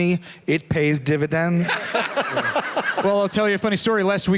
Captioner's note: laughter